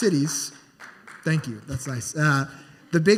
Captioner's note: scattered applause